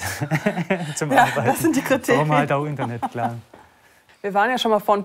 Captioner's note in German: lacht